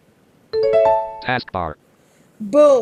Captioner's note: computer chimes